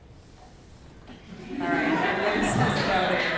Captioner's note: laughter